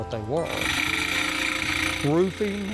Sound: saw buzzing

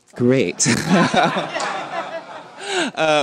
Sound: laughter

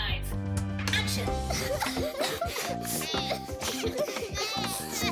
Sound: sobbing; Moyo bleating

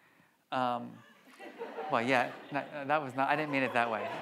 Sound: audience laughs

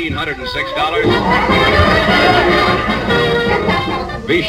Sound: audience applauds

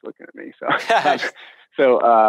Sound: laughing

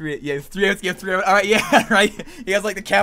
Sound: laughs

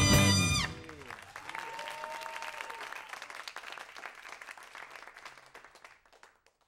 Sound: audience applauding

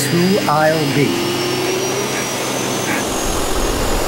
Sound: vacuum roaring

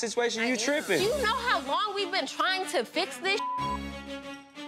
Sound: beep

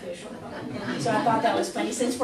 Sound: class laughs

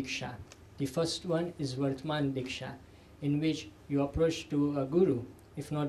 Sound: sanskrit; sanskrit

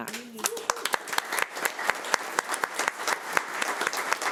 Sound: audience clapping

